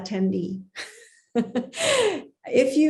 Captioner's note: chuckles